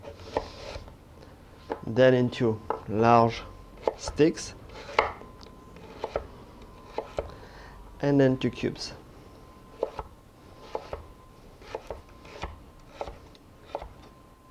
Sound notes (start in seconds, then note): 8.2 cutting sounds